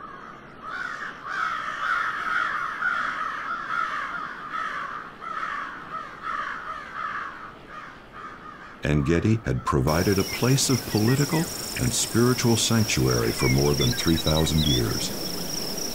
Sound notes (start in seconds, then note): 0.6 crows cawing